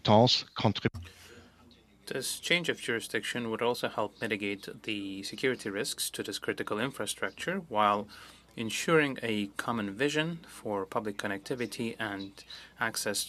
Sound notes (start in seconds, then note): 5.0 speaking French